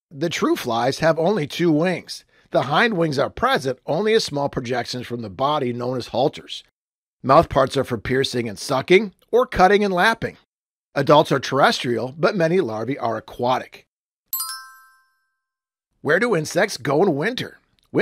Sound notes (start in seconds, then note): 14.3 chimes